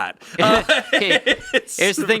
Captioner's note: laughing